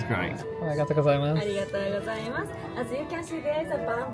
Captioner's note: speaks Japanese